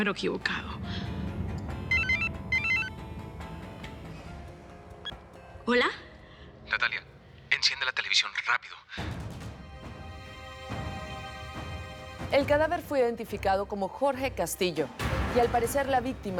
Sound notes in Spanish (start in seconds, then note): 1.9 Suena el celular